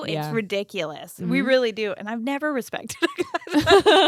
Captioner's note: giggles